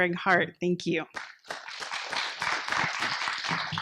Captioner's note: applause